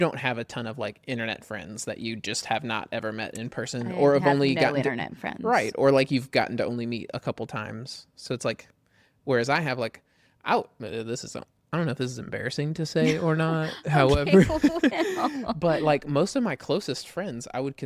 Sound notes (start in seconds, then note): 13.8 laughs